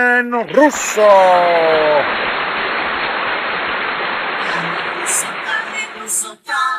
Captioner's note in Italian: Applauso